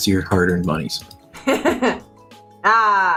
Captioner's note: giggles